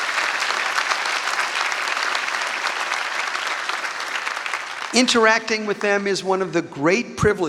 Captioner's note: applause